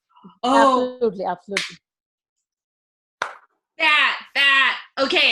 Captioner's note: claps